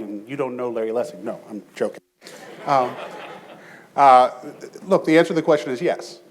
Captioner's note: audience chuckles